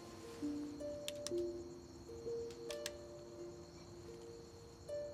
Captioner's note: flashlight clicking